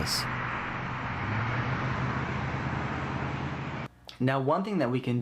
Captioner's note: sounds of a truck passing